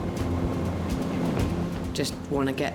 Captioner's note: dramatic music; boat engine revving